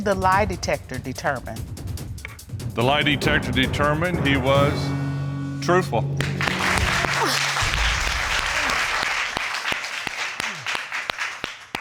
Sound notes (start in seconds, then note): 7.9 exhales